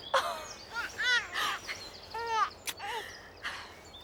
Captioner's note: Brady cooing